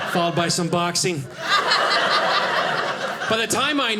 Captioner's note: audience laughing